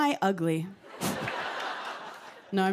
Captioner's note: laughter